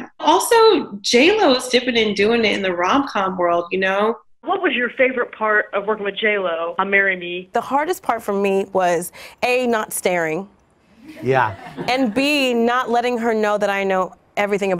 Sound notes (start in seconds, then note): 11.0 audience laughs